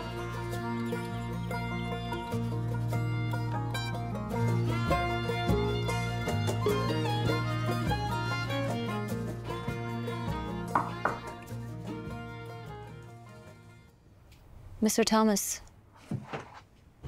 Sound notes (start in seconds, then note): 10.7 knocks on door